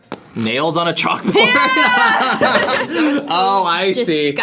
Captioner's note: laughs; bell rings